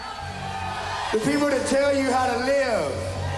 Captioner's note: crowd cheers